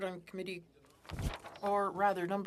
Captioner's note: speaking French